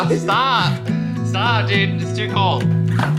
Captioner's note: laughs